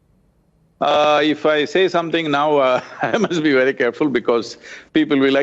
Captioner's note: laughs